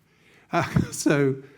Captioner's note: laughing